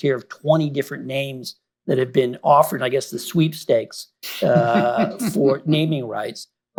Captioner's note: laughter